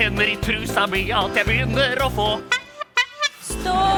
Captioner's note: horn honk